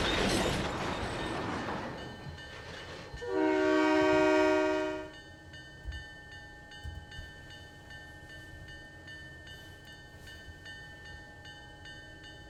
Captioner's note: train whistle